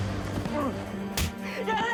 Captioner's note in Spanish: puñetazo